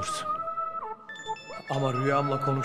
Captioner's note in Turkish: Telefon zili